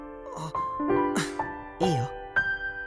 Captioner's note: shocked gasp; calming self